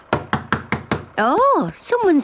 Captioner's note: knocking at door